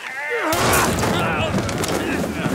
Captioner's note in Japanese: 銃声